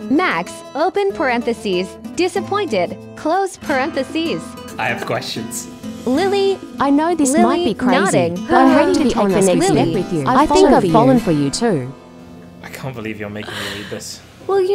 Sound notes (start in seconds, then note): 6.1 AI Voice